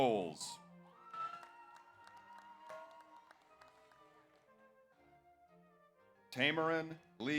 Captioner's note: audience applauds; audience cheers